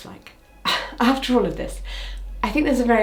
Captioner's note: sighs